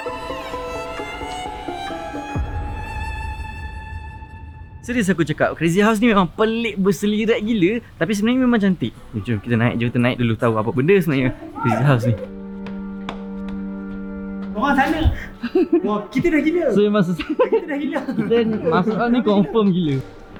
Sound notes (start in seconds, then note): 0.0 background music; 15.2 giggle